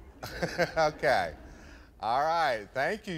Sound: laughs

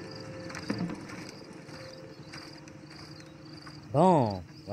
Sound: footsteps

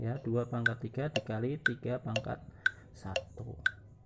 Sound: tik tok tik tok tik tok

